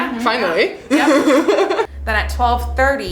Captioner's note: laughing